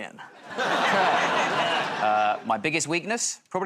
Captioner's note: laughter